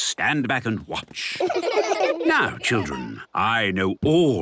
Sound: laughter

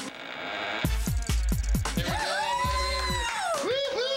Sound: cheering

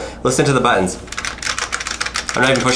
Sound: keys clacking loudly

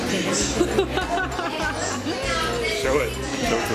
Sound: laughing

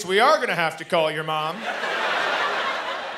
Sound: laughter

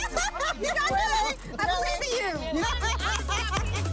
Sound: laughs; laughing

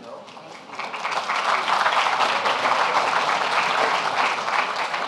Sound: audience applauding

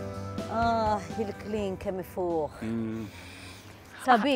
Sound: sniffs

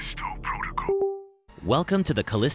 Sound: fail beep

